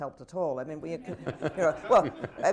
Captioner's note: laughter